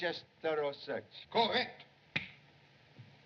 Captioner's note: snaps Fingers